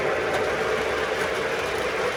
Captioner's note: train sounds